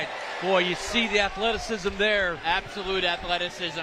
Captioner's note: applause